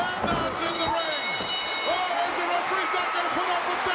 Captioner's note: bell rings